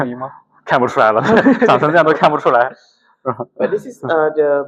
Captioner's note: laughs